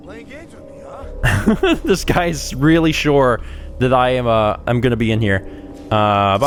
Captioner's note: heheh